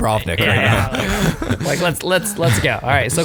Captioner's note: laughing